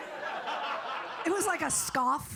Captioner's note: audience laughing